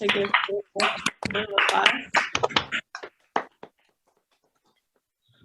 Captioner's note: applause